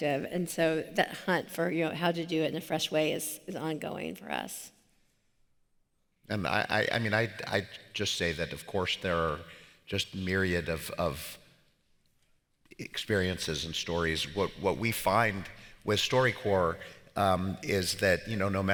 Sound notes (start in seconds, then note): none